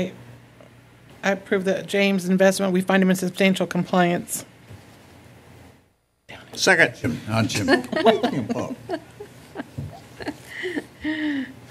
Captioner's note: whispered; laughter